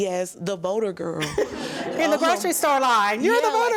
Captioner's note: audience laughs